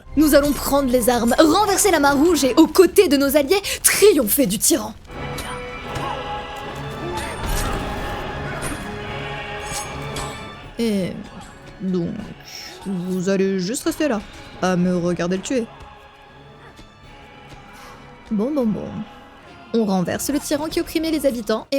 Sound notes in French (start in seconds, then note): 5.1 bruits de combat